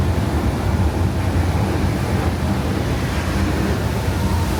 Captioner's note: water splashing